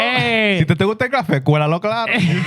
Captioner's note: speaking Spanish